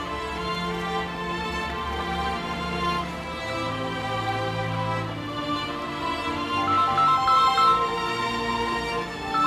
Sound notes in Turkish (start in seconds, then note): 0.2 Duygusal müzik; 6.6 Telefon çalıyor